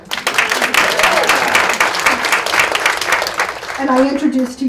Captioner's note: audience claps